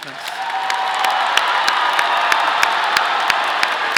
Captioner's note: audience applauding